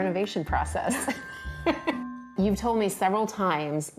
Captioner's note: laughing